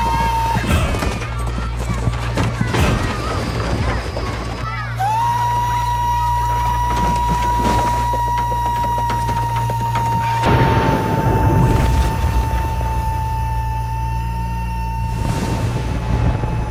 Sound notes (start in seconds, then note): 9.3 children crying